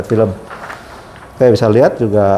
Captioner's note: PET film noise